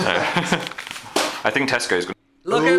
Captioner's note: both chuckle